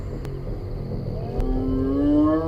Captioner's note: calling